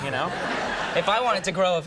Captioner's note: audience laughing